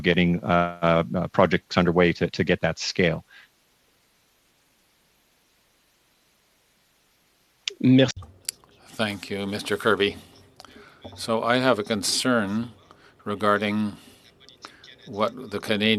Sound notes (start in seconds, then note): 11.6 speaking French